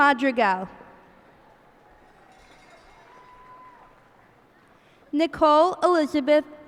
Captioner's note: cheers and applause